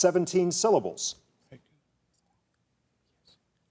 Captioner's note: contestants whispering